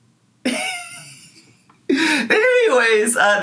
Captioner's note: wheezing